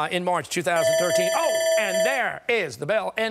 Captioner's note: timer sounding